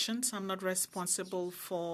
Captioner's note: speaking French